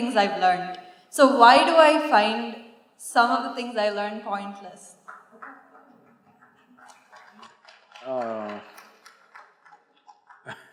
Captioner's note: applause; laughs